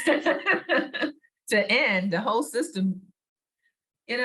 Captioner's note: laughs